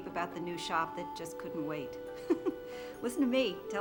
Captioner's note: laughs